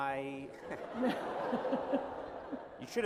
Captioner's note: laughter